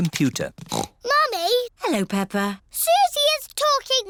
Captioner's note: snorts